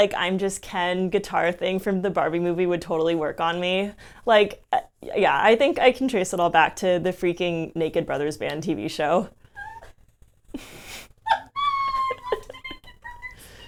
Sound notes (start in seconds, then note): 10.5 laughing